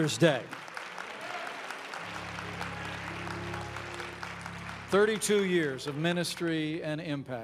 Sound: applause

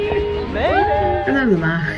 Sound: cheering

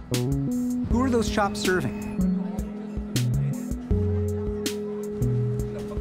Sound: indistinct chatter

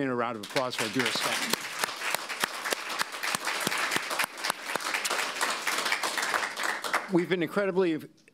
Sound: applause

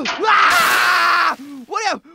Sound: exclaims

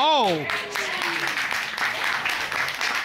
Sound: applause

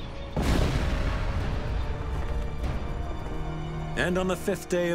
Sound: cannon shots exploding

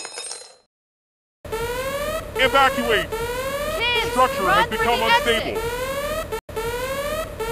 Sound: siren sounds

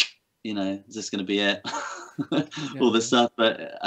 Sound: laughs

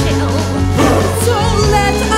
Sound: shudder

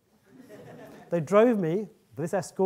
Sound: audience laughing

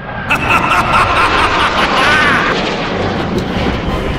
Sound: evil laughter

